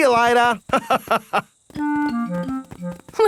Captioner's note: laughs